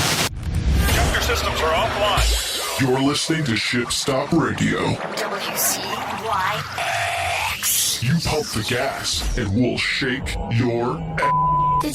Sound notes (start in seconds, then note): 1.3 metal music; 1.3 distortion